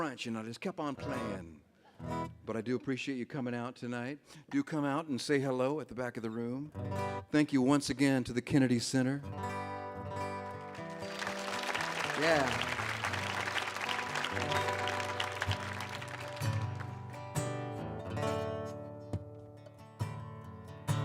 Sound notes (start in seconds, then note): 10.4 audience applauds; 14.7 gentle music